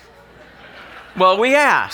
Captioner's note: laughing